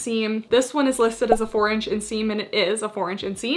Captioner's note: graphics beeping